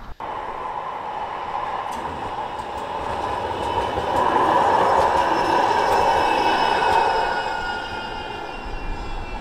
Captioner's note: tram rumble